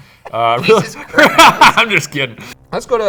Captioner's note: laughs